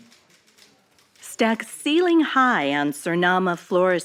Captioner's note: archival news audio